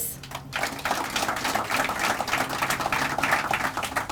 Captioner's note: crowd applauding